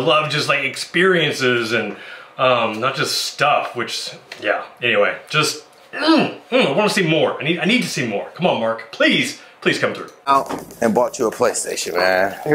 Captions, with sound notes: A lot of experiences and not just stuff which yeah, anyway just (grunting) I wanna see more. I need to see more. Come on Mark, please. Please come through. - And bought you a PlayStation man.